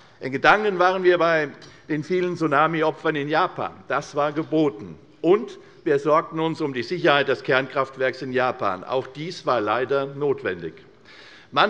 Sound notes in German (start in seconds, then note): none